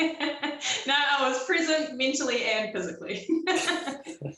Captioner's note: laughs